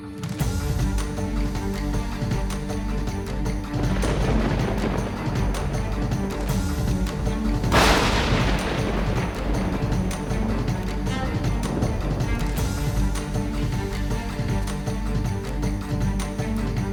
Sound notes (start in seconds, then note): 0.2 dramatic upbeat music; 3.7 thunder crashing